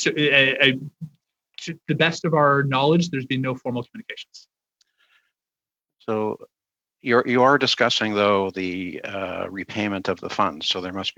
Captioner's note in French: voix de l'interprète